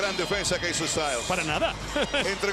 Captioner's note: laugh